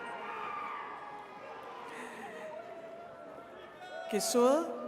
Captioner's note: attendees cheering